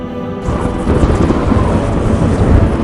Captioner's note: thunder claps